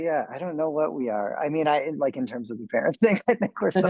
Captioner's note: man laughs